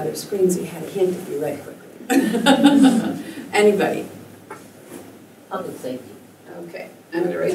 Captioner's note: laughter